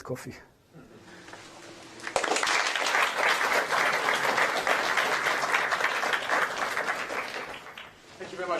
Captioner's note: applause